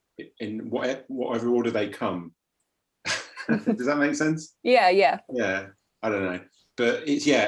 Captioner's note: laughs